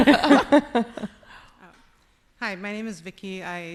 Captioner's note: laughing